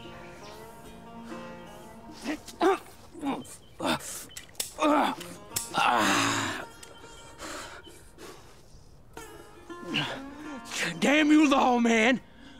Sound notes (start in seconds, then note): 2.4 Dalton groans; 4.2 pistol clicks; 4.8 Dalton grunts